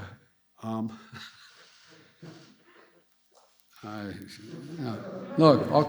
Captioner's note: laughs